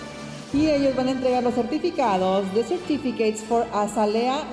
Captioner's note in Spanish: hablando en inglés